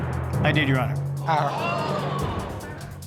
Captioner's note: audience exclaiming